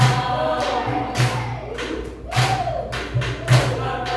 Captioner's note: clapping with rhythm